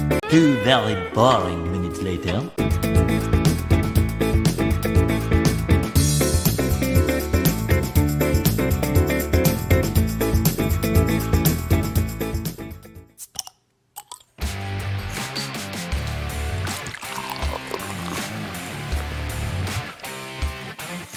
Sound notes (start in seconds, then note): 14.0 bottle cap pops off; 14.4 rock music plays; 16.5 beer is being poured